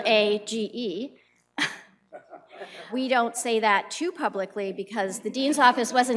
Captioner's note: laughs